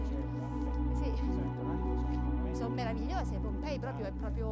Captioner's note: italian conversation